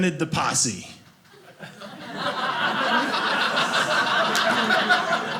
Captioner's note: audience laughing